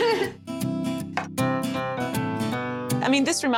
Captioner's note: Pati and Vivian laugh